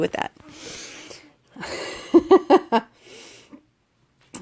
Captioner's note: laughs